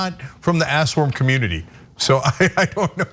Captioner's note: laugh